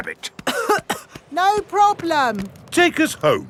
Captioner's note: coughing